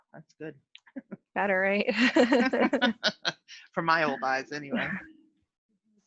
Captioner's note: laughing